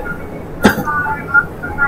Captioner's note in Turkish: öksürük